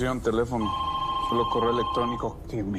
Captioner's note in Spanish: Suena el teléfono